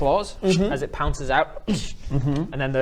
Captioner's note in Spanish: Shh